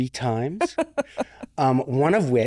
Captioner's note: laughing